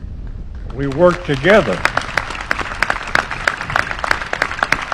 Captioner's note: applause